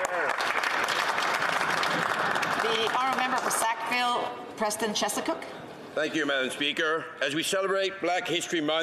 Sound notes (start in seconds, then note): 1.9 some Applause